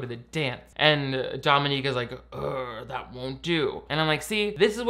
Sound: groans

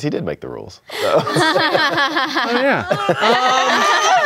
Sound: all laughing

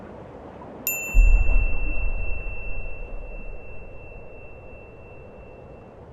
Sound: wind blowing; beep

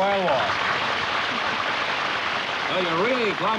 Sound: applause

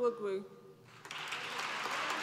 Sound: applause

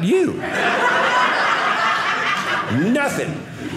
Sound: audience laughing

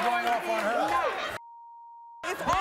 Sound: beeping

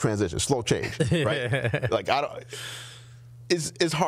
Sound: laughing

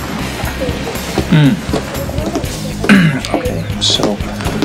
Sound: clears throat

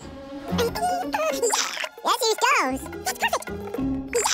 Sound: speaking fast forward

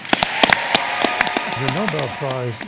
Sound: cheering

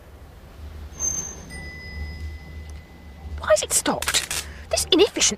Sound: ding; electrical crackle

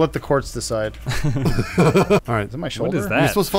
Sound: laughing

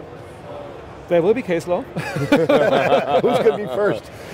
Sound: laughs

